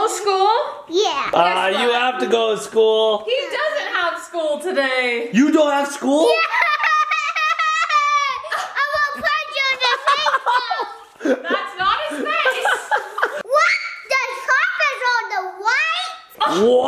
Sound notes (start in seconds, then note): 6.4 excitely shouts; 11.2 laughs